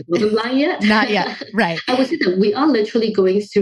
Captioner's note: laughs